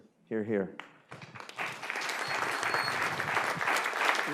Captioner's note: applause